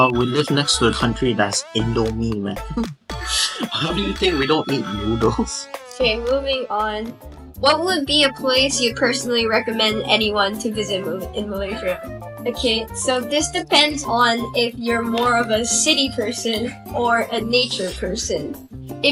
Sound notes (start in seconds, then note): 3.2 breath in